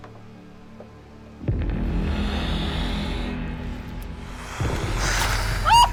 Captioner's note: ominous music; spider hissing; spider spitting; Shauna screaming